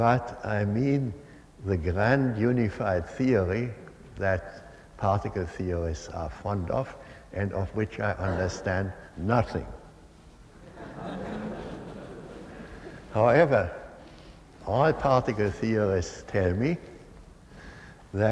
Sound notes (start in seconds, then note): 10.6 laughter